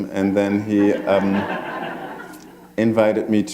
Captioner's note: laughter